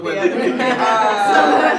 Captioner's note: laughter